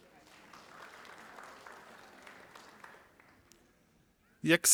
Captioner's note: audience applauding